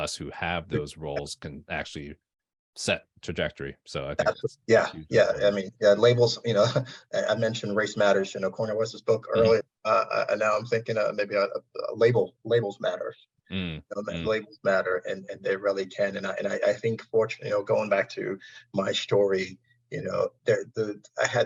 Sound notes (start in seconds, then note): 13.6 audio distortion